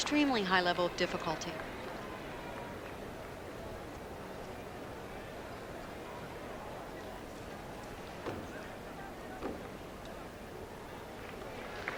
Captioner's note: applause